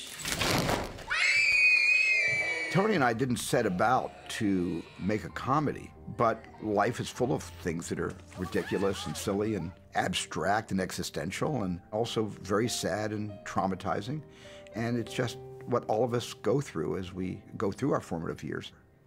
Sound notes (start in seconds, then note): 1.0 screaming